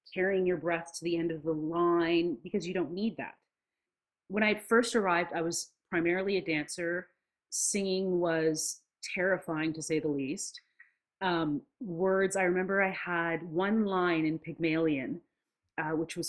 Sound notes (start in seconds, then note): none